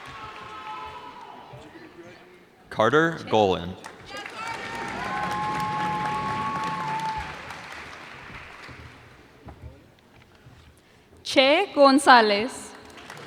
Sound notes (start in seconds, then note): 3.9 cheers and applause